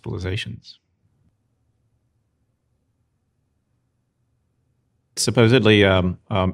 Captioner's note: silence